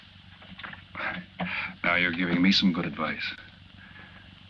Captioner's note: chuckles